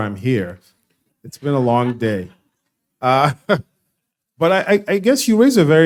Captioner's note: laughing